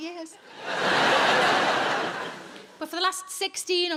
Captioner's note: audience laughing